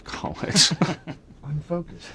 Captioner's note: laughs